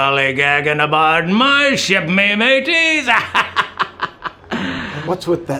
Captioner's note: laughs